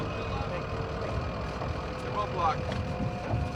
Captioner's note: indistinct chatter